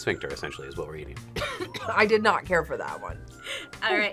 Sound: coughs

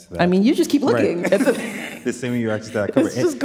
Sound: chuckles

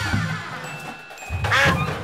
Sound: quacking

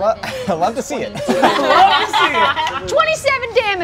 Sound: all laugh

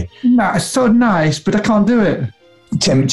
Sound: childish voice

